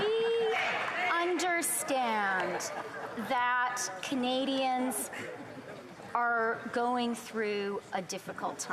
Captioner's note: speaking Spanish